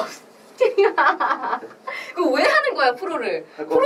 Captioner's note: laughs